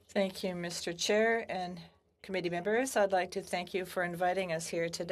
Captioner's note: speaking French